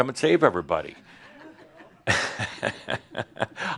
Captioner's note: chuckles